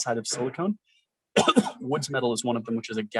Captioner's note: coughs